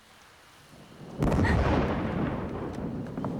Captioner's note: thunder booms; wind blows suddenly; whimpers